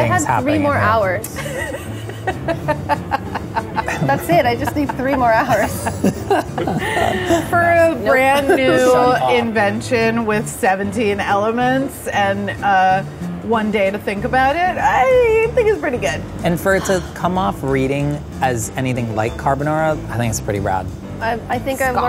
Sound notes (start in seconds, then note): 1.3 laughing; 6.0 all laughing